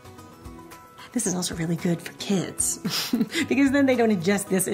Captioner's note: laughs